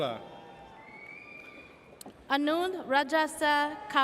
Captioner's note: audience cheers